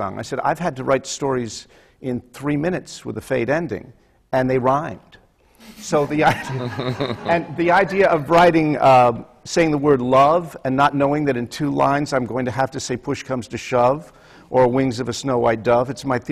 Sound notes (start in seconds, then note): 6.0 laughter